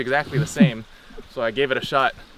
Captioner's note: giggles